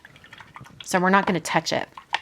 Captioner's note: water splashing